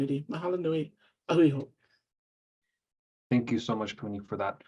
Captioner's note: speaking in Hawaiian